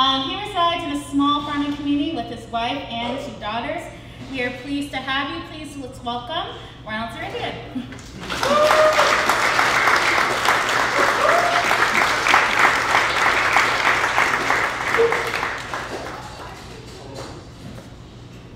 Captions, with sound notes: He resides in a small farming community with his wife and two daughters. We are pleased to have you. Please, let's welcome Ronald Dzerigian. [Applause]